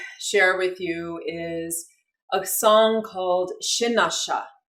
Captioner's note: speaking in foreign language